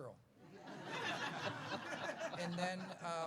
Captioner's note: laughs